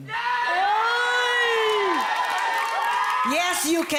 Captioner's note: audience cheering